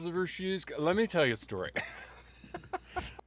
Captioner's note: laughs